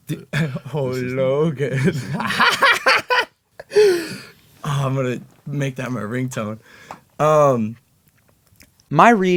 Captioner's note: laughs hard